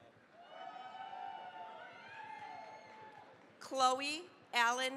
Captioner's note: cheering, applause